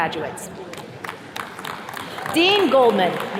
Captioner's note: attendees cheering